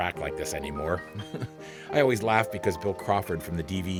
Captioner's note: chuckles